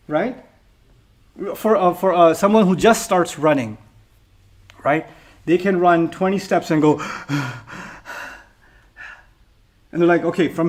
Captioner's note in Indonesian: ngos-ngosan